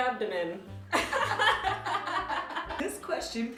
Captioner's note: laughter